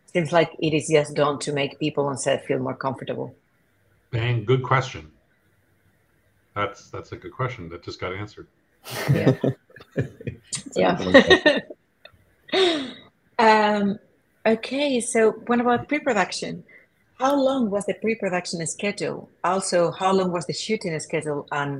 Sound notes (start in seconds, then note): 8.8 laughing